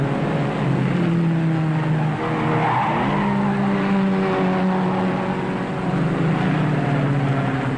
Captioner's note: engines rumbling; tires squealing